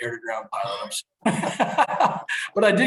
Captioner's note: both laughing